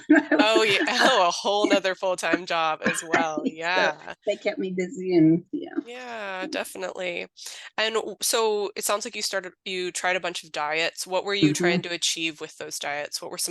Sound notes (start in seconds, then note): 0.0 laughs